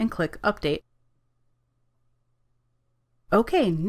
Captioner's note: silence